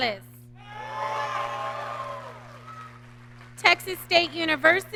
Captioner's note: audience cheering